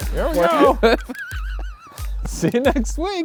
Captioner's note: laughing